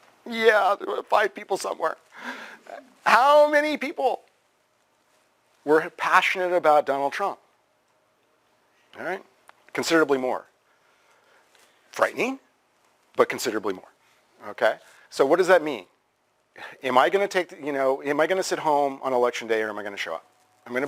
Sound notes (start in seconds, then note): 0.0 pause; 7.7 pause